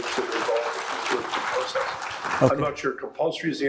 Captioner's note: audience applauding